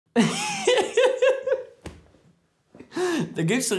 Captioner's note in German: lachen